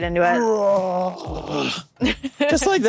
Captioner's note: groans